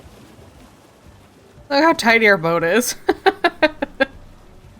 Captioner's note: laughs